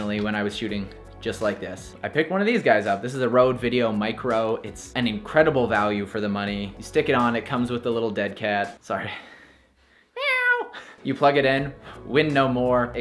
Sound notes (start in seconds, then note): 10.1 chuckles; 10.1 meows